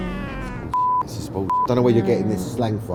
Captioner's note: beep